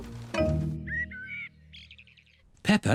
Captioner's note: birds chirping